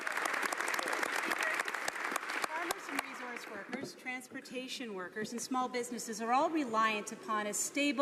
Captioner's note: some Applause